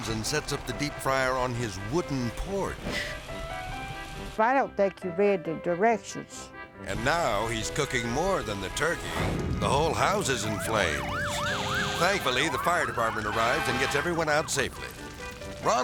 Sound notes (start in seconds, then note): 2.9 melodic music; 9.3 flame exploding; 9.6 sirens blaring